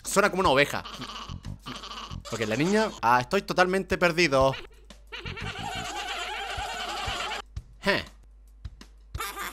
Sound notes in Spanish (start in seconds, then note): 5.9 hahahahahahaha